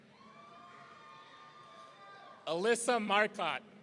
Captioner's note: audience cheering